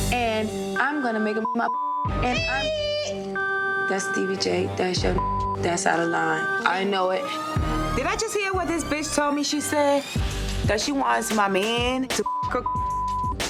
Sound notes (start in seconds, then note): 0.7 beep; 4.9 beep; 12.2 beep